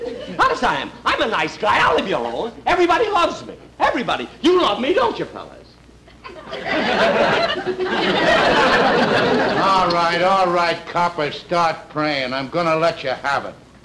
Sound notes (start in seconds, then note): 6.1 audience Laughing